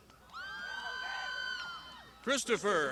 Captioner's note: crowd shouting